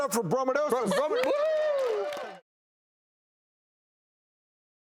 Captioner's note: crowd cheers